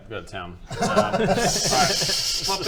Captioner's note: laughs